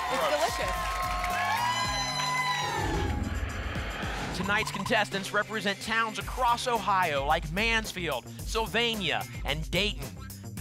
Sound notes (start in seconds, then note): 0.0 applause and cheering; 2.8 whoosh